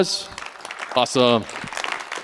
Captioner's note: applause